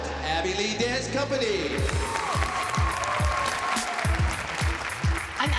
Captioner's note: cheering